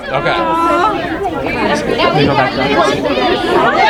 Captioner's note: people chattering